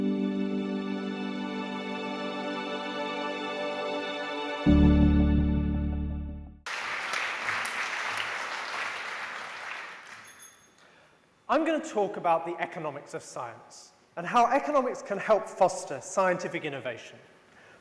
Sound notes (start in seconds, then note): 0.0 background music; 6.6 applause; 10.2 bell rings